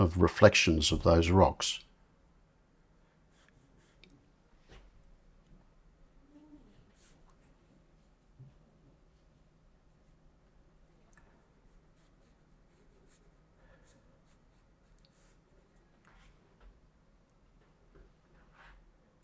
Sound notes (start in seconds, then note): 2.8 silence